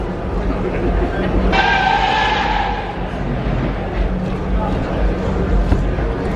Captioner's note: car squeals in background